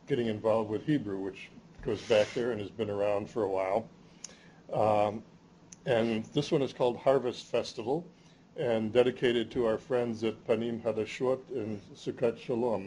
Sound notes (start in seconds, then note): 10.5 speaking hebrew